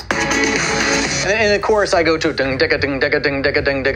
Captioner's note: cymbals clashing, musical beats; mimicking guitar